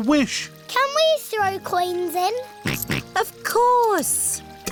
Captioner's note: snorts